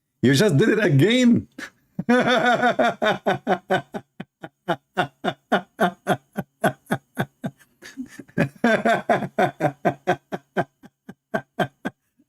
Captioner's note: Ketawa